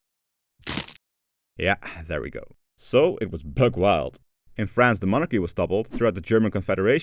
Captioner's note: crack